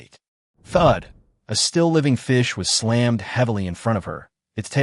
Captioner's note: thud